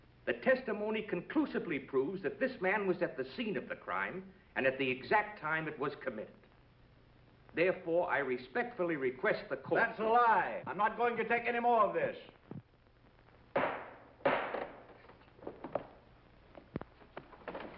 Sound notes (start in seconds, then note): 13.5 gavel thuds